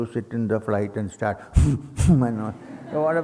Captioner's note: rapid exhales